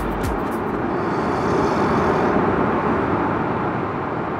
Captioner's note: people snoring